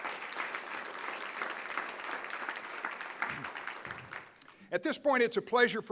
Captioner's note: applause